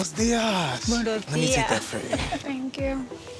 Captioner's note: abuela chuckles